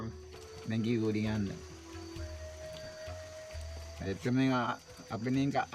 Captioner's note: speaking in foreign language